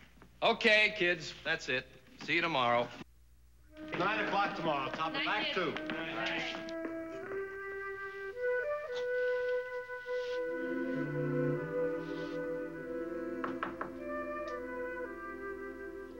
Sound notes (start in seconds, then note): none